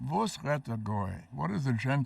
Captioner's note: speaking foreign language